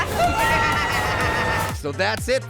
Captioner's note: people screaming